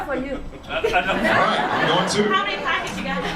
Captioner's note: audience laughs